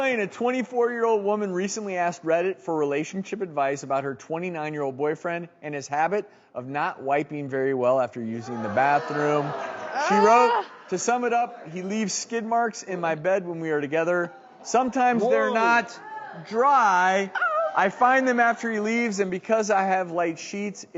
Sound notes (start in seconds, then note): 8.4 audience groaning; 15.0 audience gasps